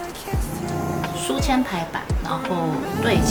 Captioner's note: the background sound is Duo Duo's angry roar; the background sound is Duo Duo's angry roar